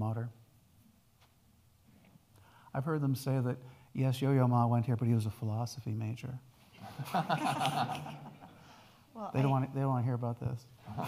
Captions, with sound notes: with his own alma mater. I've heard them say that, yes, Yoyo Ma went here, but he was a philosophy major. (audience laughing) Well, they don't wanna hear about this.